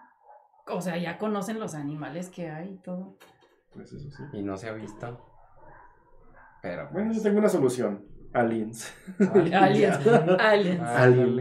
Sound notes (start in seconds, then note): 5.4 creeped out silence